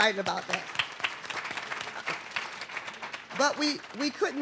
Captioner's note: audience clapping